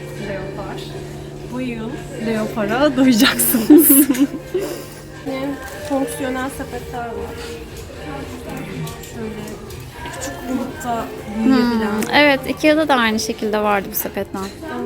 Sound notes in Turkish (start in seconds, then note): 3.4 gülüşmeler